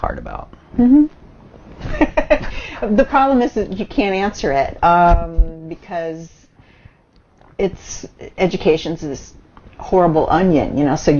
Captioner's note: laughs